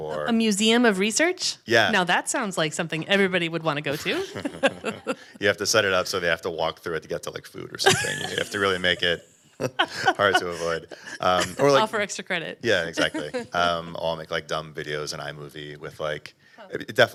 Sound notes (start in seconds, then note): 4.0 panel laughing; 7.7 laughs